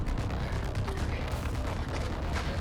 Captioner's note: whispers